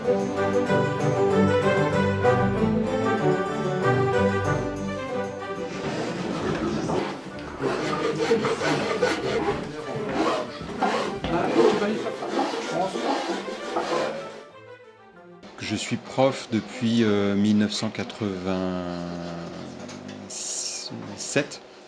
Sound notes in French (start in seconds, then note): 0.0 musique baroque; 5.5 bruit de lime; 11.2 voix et bruits d'autres outils